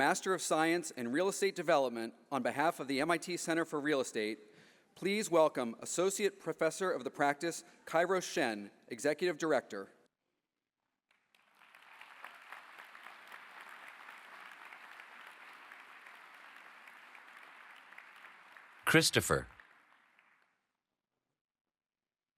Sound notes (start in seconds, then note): 10.7 applause